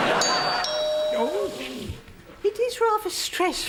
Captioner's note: doorbell